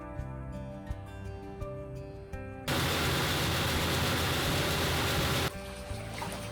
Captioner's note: threshing machine